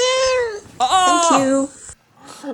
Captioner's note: cat meows